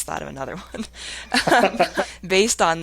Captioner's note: laughing